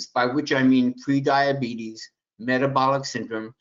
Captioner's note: none